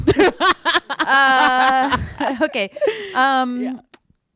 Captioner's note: laughter